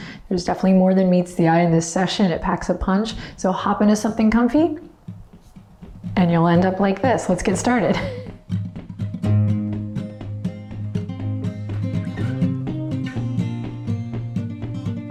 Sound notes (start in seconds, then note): 7.4 laughs; 9.4 upbeat music